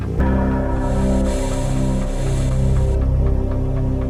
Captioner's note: soft hissing buzz